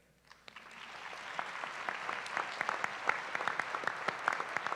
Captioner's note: applause